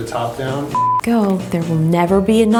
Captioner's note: beeps